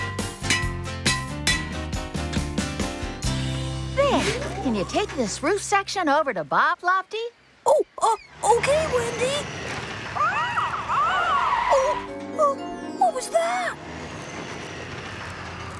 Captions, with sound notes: ( Hammer Clanging ) THERE. CAN YOU TAKE THIS ROOF SECTION OVER TO BOB, LOFTY? OH, UH, OKAY, WENDY. ( Caw! Caw! ) OH, UM, WHAT WAS THAT!?